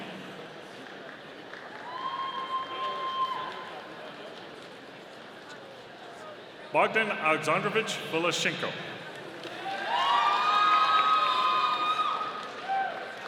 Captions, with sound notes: (audience applauding) Bogdan Alexandrovich Vasilchenko. (audience cheering)